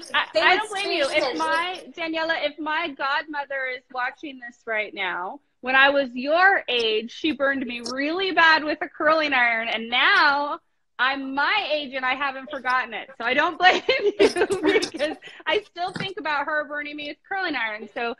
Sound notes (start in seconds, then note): 13.6 both laughing